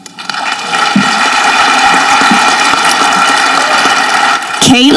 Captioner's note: audience clapping